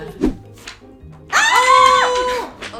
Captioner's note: screaming